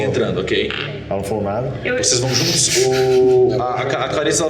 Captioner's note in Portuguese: risada